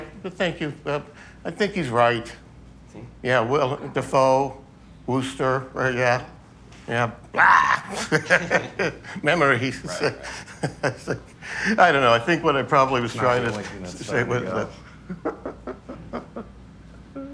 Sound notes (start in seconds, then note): 7.3 Kyle laughs; 14.5 Johnathan’s Husband laughs